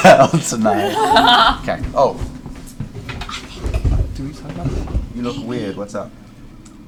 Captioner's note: quietly